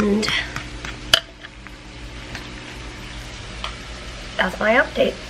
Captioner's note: sizzling and stirring noises